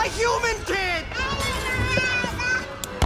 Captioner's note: babbles joyously